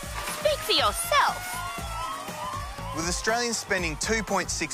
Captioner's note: siren blares